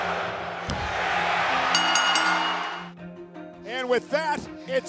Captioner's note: audience cheering; bell rings